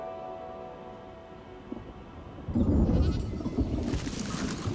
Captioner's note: animal bells ringing; thunder rumbling